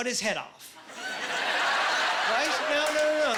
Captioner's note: laughing